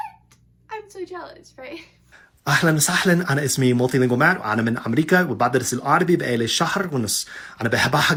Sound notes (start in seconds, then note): 3.9 speaking Arabic really well